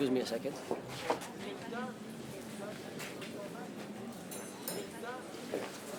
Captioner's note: people chatter indistinctly